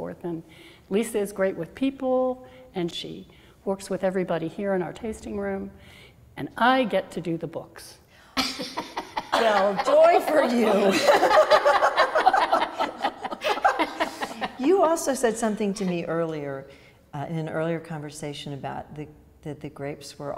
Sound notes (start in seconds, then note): 8.4 laughs; 10.9 women laugh